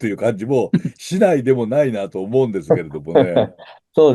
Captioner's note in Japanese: 笑い